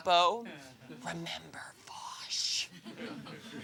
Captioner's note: whispering